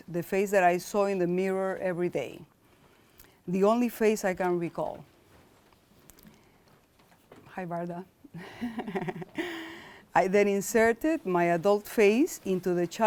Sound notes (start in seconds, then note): 8.4 laughs softly